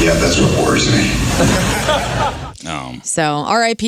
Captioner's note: audience laughing